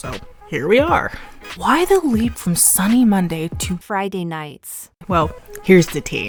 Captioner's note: text-to-speech voice